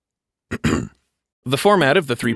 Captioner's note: clears throat